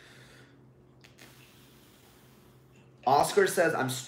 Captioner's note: sighs